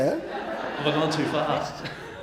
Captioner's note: audience laughing